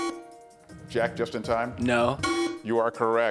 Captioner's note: buzzer sounding